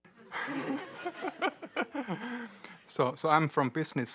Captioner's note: audience laughing